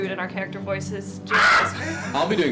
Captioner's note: shouts